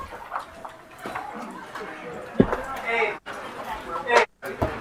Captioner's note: attendees chattering